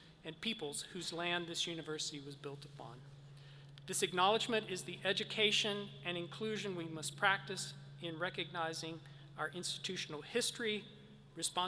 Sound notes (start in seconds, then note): none